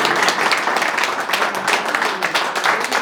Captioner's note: applause